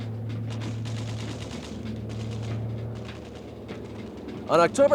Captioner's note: tank engine revving; upbeat music; guns firing